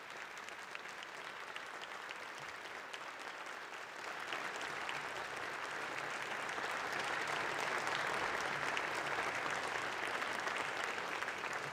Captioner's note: applause